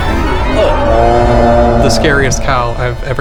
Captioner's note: sound effect